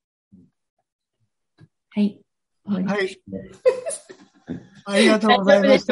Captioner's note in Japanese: ）楽しそうな笑い声